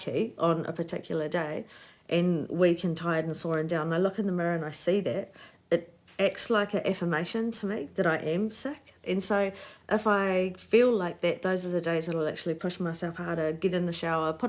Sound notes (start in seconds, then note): none